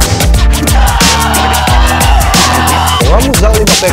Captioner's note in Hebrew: צרחה